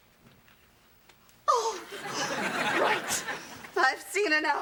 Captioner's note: teacher gasps